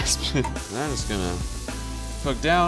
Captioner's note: laughs